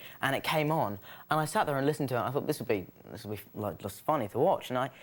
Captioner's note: none